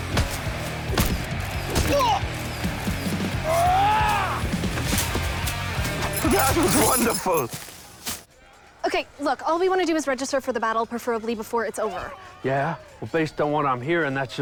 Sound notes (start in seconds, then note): 3.4 Leopold Roars